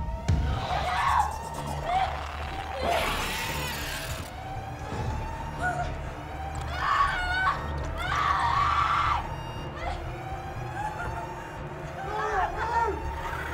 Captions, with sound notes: No! [screaming] Help me. Lara, move.